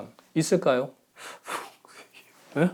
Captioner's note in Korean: 울먹